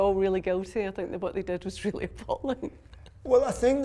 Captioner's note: chuckles